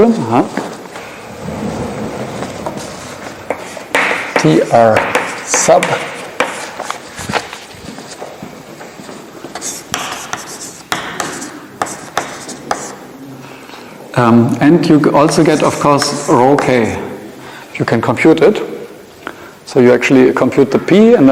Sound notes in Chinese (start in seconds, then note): 6.7 页面沙沙作响